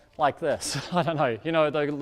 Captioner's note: laughs